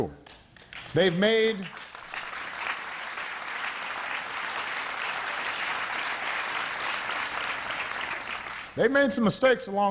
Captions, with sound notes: THEY HAVE LIVED THROUGH MORE THAN MOST OF US WILL EVER HAVE TO ENDURE. [APPLAUSE]